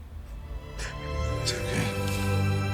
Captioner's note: sniffles